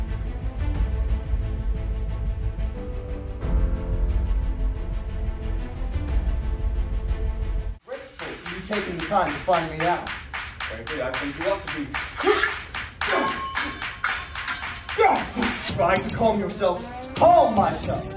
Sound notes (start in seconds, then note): 12.8 metal clangs; 12.9 scrape of metal